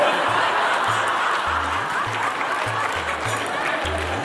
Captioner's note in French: rires